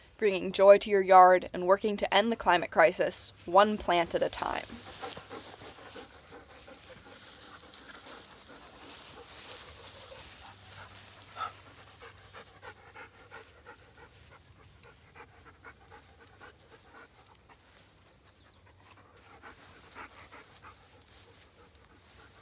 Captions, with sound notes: bringing joy to your yard and working to end the climate crisis one plant at a time [dogs panting, plants rustling, insects humming]